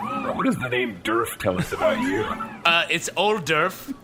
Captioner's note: laughter